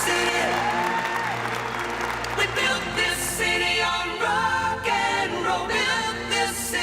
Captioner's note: applause